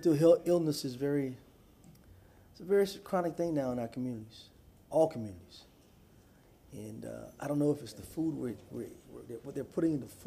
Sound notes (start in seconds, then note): none